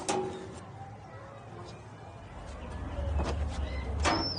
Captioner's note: children chattering; door clanking